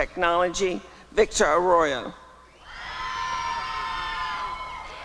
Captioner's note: applause and cheering